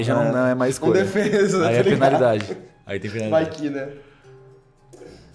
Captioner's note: laughs